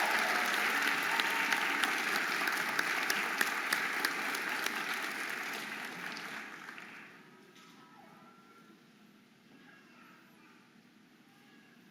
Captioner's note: audience applauding and cheering